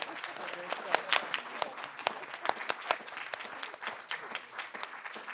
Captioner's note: applause